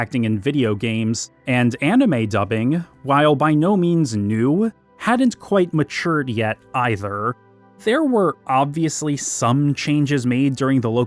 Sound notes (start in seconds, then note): none